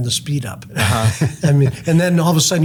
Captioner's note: laughs